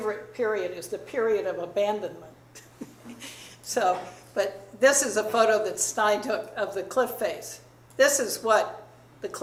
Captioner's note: chuckles